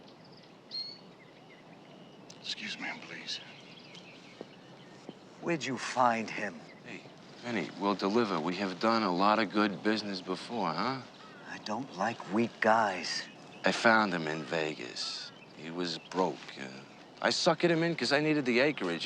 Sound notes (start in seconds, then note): none